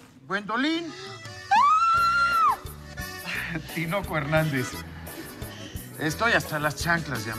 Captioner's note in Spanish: grita